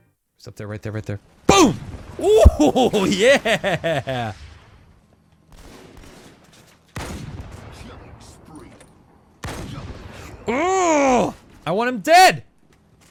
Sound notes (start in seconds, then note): 2.2 yells; 4.5 guns firing; 10.4 grunts in frustration; 10.5 yells